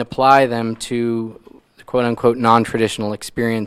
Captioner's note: none